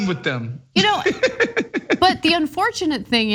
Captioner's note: laugh